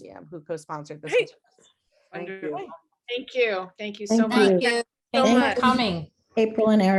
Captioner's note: many voices saying thank you